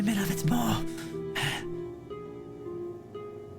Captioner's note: breath